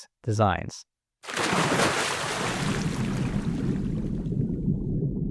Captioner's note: water splashing